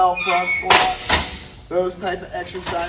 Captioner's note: metal clunking